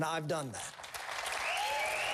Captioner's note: applause